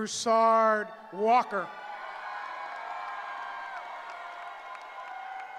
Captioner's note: cheering